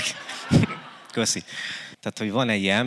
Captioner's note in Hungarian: nevetés